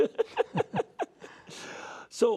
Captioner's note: laughter